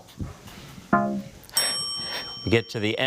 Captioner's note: bell blares